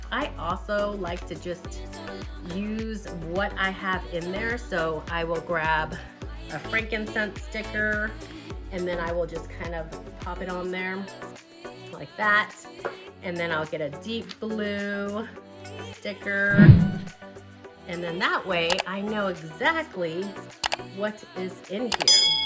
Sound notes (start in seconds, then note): 16.5 whooshing sound